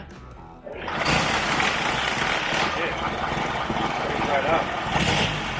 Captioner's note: engine revving